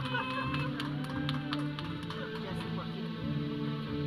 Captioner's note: audience cheering; audience chattering; processional music